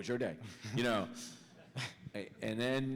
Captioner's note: laughter